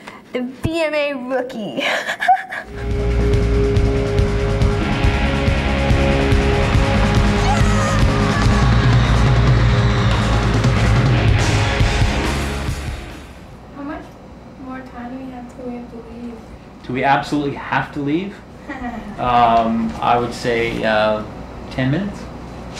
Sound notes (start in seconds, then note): 1.8 laughs; 4.9 rock music playing; 6.8 audience cheering; 18.6 laughs